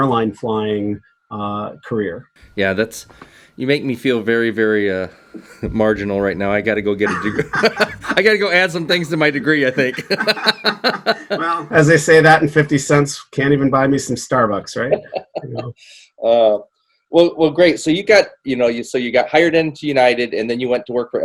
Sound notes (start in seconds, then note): 7.0 laughter